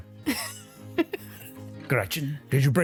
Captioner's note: giggles